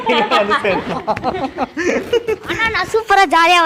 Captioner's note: laughing